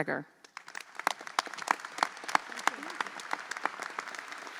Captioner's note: audience applauds